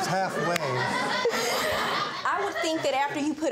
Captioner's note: laughter